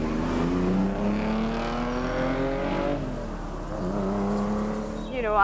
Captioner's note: car engine roaring fades away